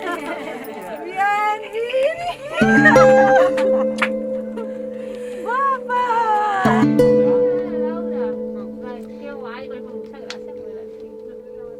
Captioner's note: sonido de risas, felicidad y emoción